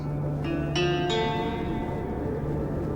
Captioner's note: melancholic string melody; wind howling